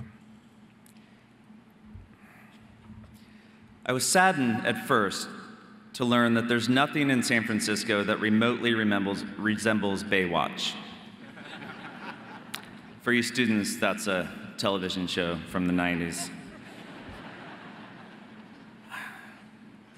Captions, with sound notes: I was saddened at first to learn that there's nothing in San Francisco that remotely resembles Baywatch. (audience laughing) For you students, that's a television show from the 90s. (audience laughing)